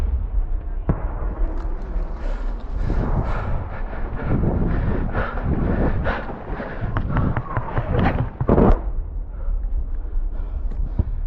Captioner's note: panting